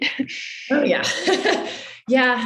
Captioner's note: chuckles